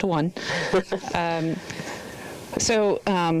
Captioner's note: laughing